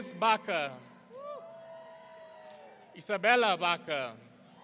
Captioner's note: audience cheering